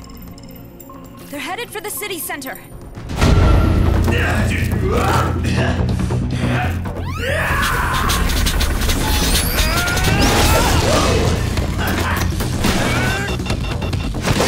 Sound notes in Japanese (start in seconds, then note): 3.7 荒い息; 6.1 力み声